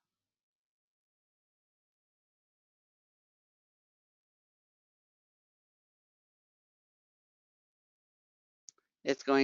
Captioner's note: 8 seconds pause